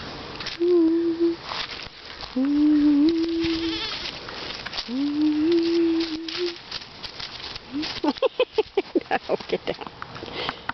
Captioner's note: humming; laughter